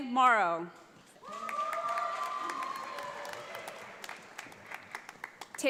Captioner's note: audience applauds